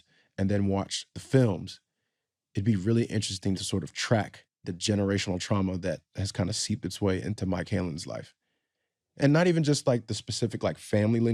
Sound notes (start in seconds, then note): none